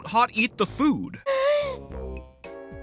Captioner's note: gassssppp